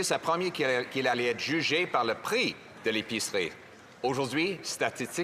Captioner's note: speaking French